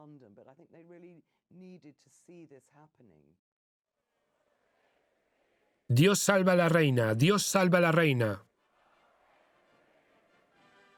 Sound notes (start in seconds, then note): 5.9 crowd chanting